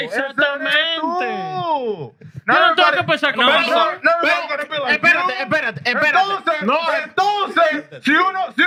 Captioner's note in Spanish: Hablando en idioma extranjero